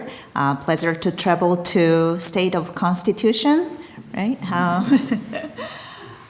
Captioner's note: chuckles